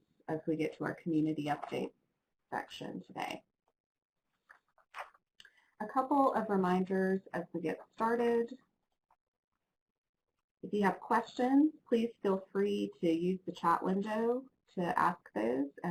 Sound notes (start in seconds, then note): 4.4 page flips